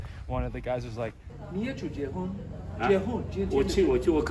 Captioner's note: Mandarin